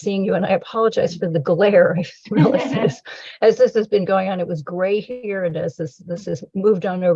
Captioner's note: laughter